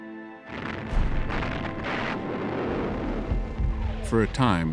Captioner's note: artillery fires